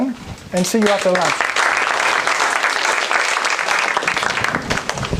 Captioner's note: applause